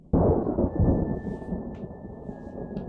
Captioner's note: lightning strike